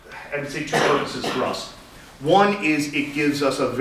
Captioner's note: audience member coughs